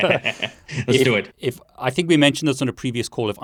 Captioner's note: laughs